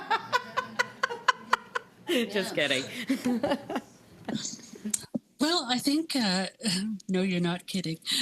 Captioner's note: laughter